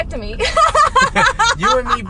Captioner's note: laughs